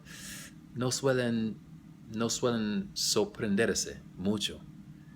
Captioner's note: spanish